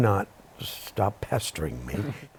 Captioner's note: chuckles